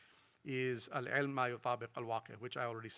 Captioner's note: speaks in foreign language